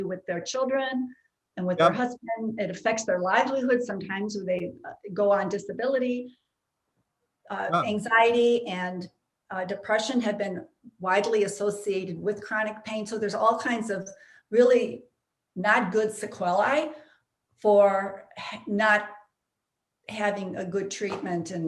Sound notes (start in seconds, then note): none